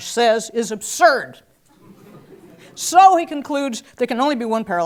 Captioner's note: laugh